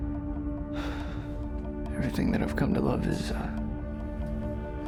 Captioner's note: ominous music; sighs